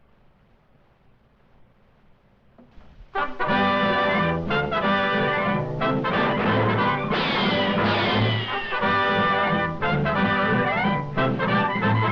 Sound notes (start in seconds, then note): 3.3 triumphant music; 7.1 gun bangs